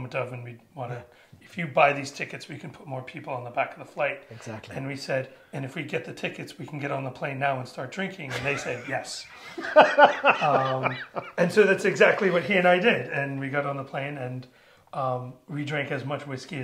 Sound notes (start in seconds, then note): 8.3 laughs